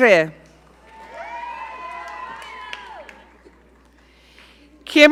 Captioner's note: audience cheering